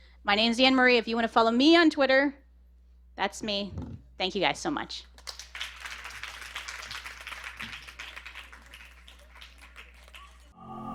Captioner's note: applause